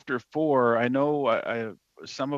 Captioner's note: speaking French